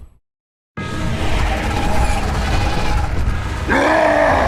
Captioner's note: growling; roars; grunts